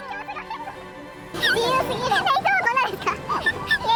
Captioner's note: laughs